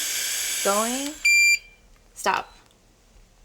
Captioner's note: machine beeps